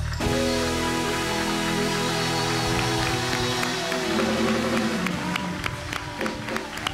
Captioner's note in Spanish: Ovación